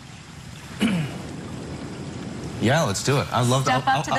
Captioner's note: clears throat